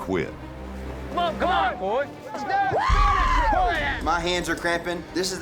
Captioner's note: shouting, yelling